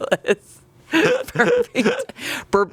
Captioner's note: everyone laughs